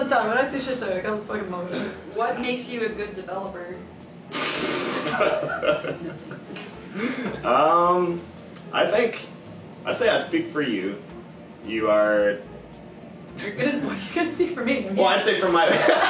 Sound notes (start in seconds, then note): 5.0 laughing; 6.1 whispering